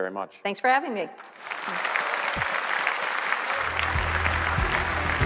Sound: applause

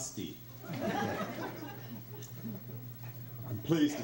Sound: crowd laughs

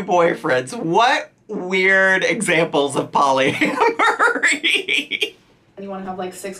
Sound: laughs

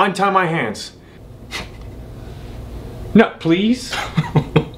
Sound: they chuckle

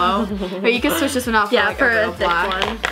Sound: laughs

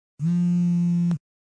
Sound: phone Vibrating

